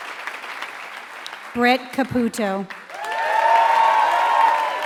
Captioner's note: applause